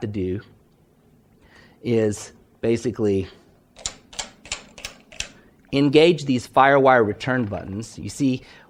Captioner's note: clicking buttons on the console